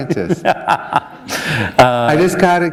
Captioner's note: laughter